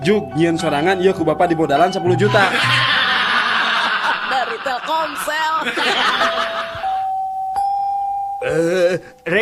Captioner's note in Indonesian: tertawa